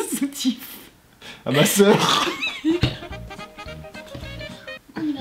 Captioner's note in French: rire